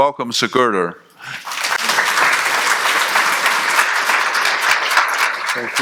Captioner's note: audience appluading